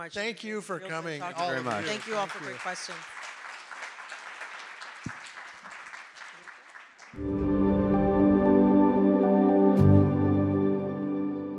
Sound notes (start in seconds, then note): 3.5 audience applauds; 7.2 gentle music